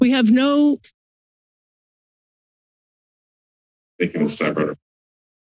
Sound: silence

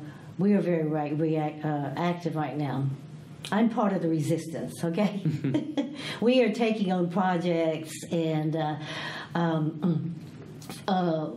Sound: all laugh

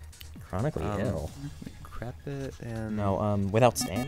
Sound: wispering

